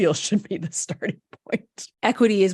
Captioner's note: chuckles